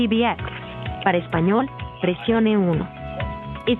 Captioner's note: speaking spanish